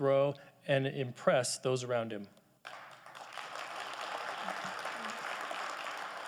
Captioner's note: audience applauding